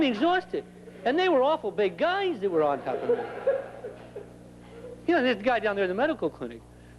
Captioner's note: laughter